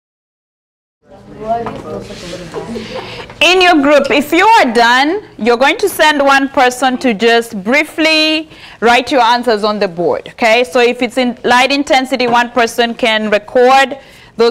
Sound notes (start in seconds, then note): 1.1 students chatting